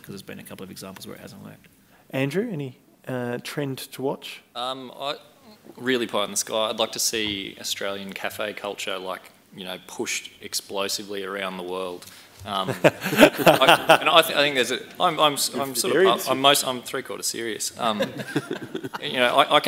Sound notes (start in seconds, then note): 12.6 chuckling